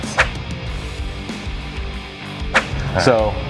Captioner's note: whish